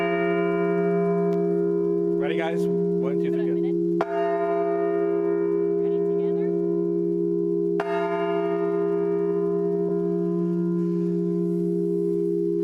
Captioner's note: bell rings